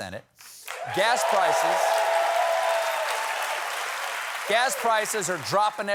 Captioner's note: cheers and applause